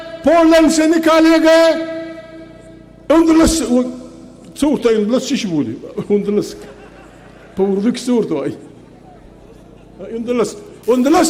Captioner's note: laughs